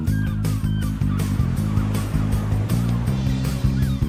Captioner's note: upbeat music continues; gulls squawking